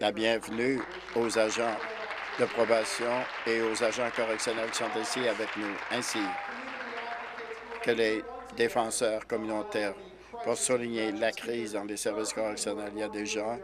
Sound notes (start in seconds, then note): 7.6 applause